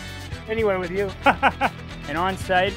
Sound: laughter

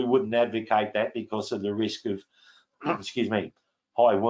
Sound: clears throat

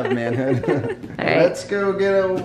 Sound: both laugh

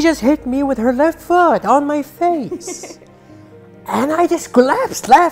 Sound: laugh

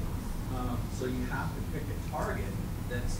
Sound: voiceover

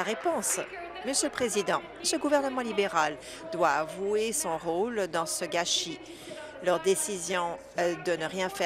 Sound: applause

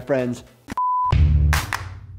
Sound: beeping; cheery music

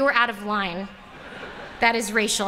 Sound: laughter

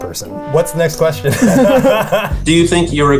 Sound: laughing

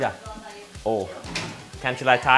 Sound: speaks in foreign language

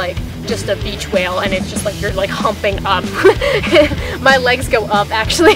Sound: laughs

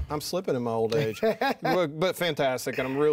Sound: laughing

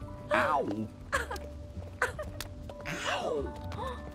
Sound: Eloise laughing

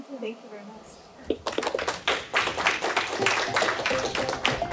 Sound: applause

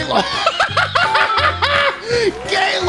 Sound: hysterical laughter

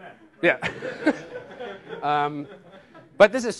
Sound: laughter

